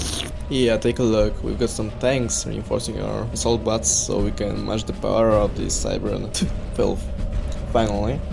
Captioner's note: spits